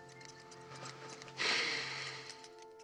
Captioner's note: sighs